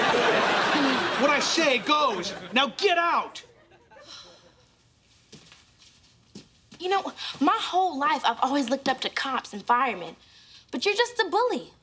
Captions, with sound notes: What I say goes, now get out. [sighing] You know, my whole life I've always looked up to cops and firemen, but you're just a bully.